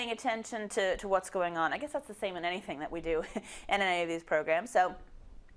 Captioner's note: laugh